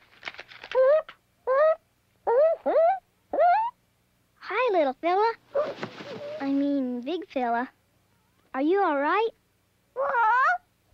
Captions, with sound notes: (hooting) Hi, little fella. (feathers ruffling) I mean, big fella. Are you all right? (squawks and hoots)